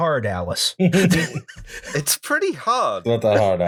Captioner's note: laughter